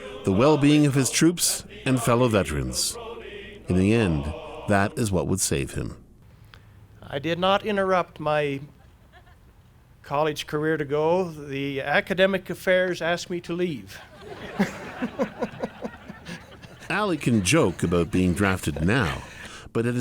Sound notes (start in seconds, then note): 13.8 laughs; 13.9 audience laughter